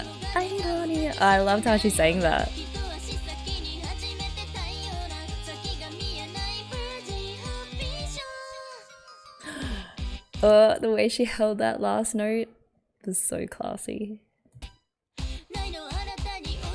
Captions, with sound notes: [sings] 'Irony'. I loved how she sang that! [gasps] Oh the way she held that last note was so classy.